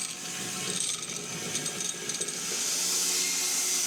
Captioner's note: mill whirring